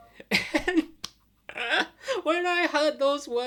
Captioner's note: laughing